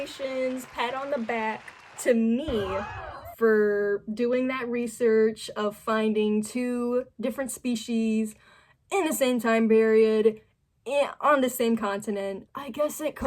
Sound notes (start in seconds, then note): 2.6 crowd gasp